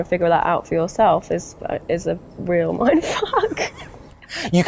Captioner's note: laughs